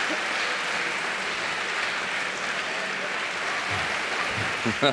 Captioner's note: audience applauding; all laughing